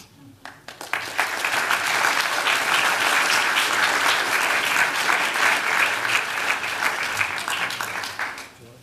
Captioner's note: applause